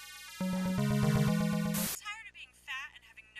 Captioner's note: static